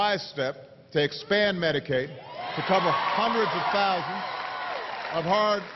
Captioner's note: applause